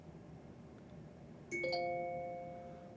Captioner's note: phone ringing